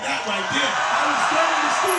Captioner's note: cheering